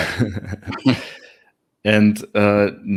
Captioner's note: chuckles